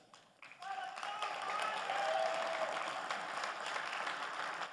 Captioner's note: generous applause rings